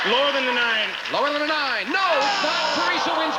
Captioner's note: buzzer sounds